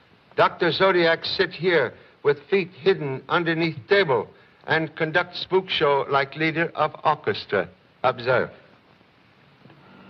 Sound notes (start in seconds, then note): none